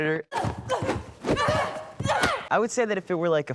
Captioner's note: grunting